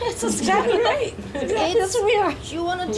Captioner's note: all laughing